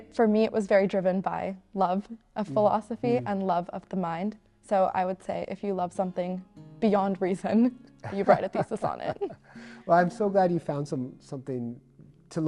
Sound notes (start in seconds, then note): 8.0 both chuckle